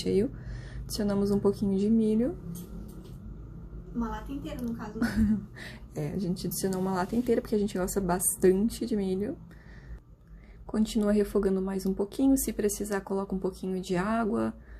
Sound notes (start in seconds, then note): 5.4 laughs